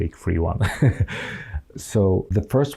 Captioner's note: laughing